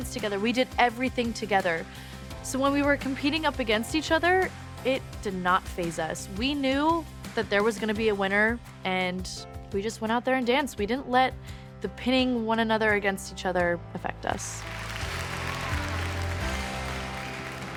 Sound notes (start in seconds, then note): 14.5 applause